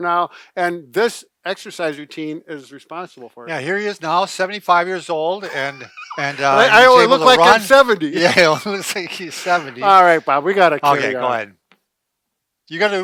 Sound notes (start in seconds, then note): 5.4 laughing; 8.1 both laughing